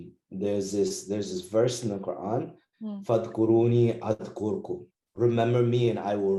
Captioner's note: in Pakistani